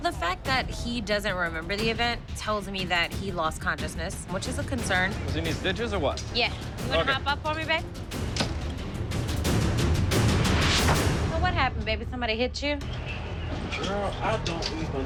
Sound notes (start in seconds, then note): 7.5 dramatic music playing; 8.4 thump; 10.2 slam; 10.5 swish